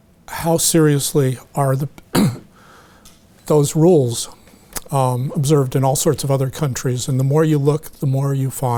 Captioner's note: clears throat